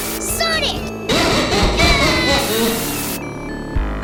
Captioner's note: goofy ahh laughter